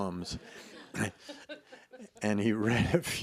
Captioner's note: laughs